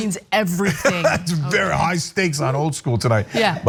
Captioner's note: laugh